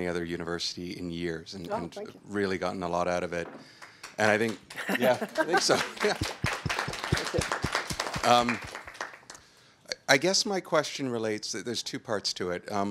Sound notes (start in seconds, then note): 3.8 audience claps